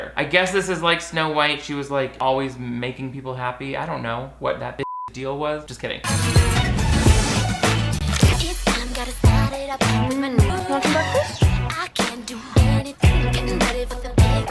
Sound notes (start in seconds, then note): 4.8 beep; 6.0 upbeat music